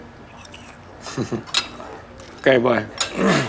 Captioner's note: laughs